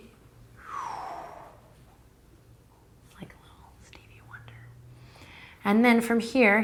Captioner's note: breathing